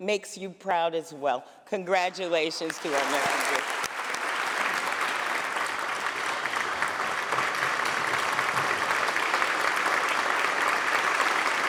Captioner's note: applause